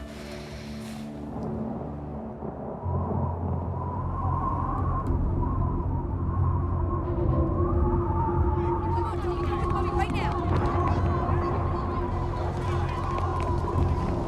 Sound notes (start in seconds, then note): 1.5 strong wind blows; 1.5 thunder rumbles; 6.8 suspenseful orchestral music